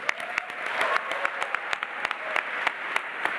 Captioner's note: applause